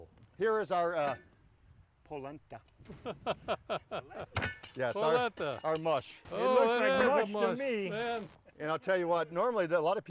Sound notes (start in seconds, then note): 3.1 laughing